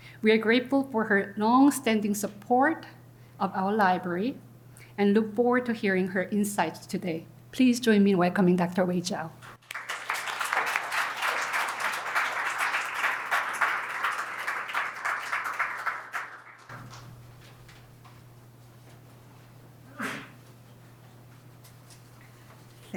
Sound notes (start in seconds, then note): 17.3 applause